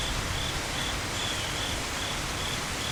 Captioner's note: cricket Noises